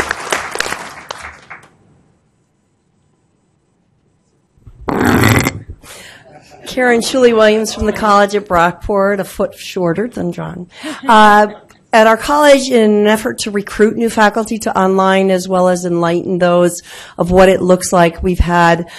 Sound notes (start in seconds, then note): 10.7 laughing